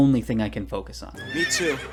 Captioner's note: neigh